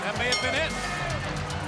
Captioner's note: bell ringing